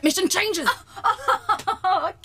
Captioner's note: raising her voice